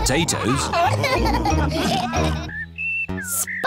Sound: laughter

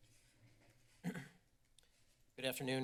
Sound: clears throat

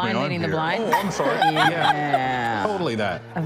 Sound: attendees laughing

